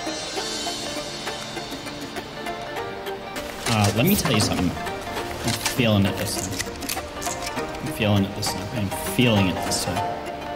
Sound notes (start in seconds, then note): 6.3 reloads weapon in background